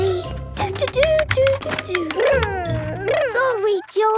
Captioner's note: humming